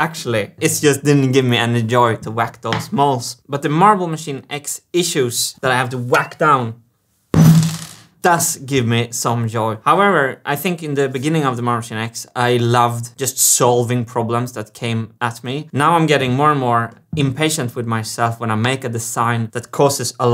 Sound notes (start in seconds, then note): 7.4 poing; 7.4 whack